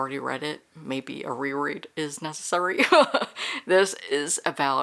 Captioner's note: laughs